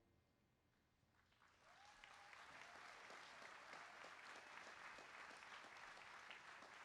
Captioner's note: applause